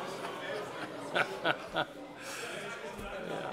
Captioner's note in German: Heiterkeit